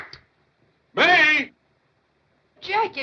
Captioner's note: shouting